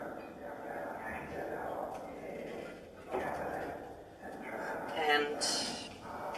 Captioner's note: mysterious whisper chanting